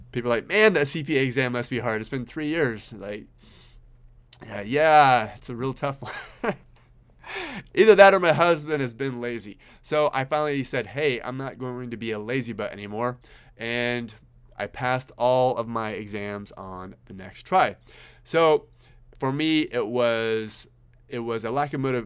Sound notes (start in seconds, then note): 6.0 chuckles